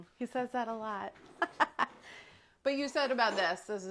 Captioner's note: laughs